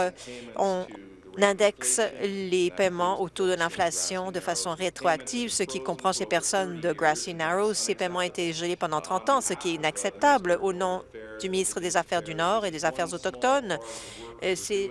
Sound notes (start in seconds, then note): none